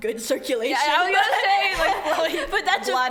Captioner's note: laughs